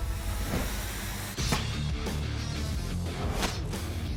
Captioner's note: chopping